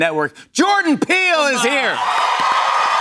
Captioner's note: cheers and applause